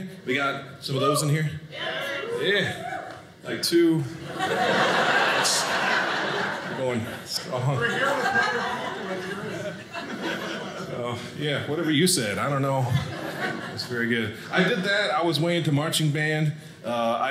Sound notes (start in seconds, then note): 4.2 audience laughing